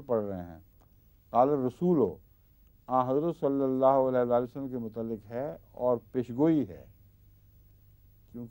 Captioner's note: Arabic